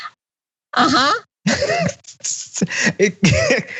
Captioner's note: laugh